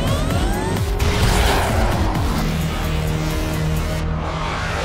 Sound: spacecraft whooshes

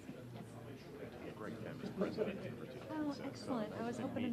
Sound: people talking

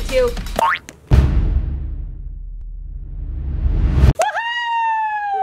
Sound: bouncing; bass drum hit

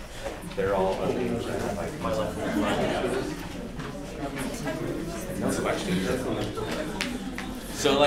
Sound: background Discussion

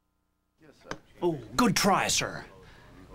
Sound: men Chattering

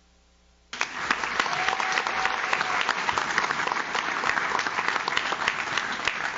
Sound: audience claps; audience cheers

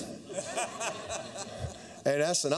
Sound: laughter

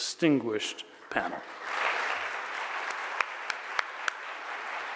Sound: audience applauds

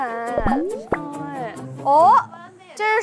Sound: A gentle hit

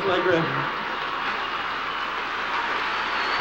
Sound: audience laughing, cheering, applauding

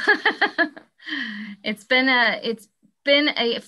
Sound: laughing

